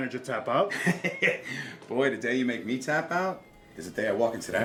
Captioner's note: laughs